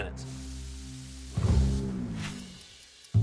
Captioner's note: patty sizzling; timer ticking